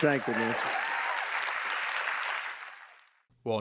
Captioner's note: applause